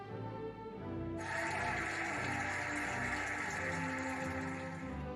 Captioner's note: cheering and applauding